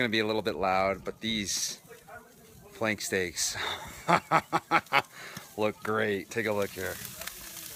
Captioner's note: laughs